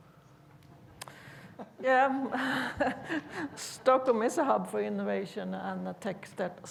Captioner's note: chuckles